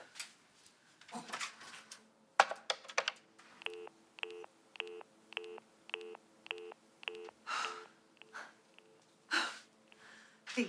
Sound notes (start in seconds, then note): 3.7 dial tone beeping; 7.4 sighs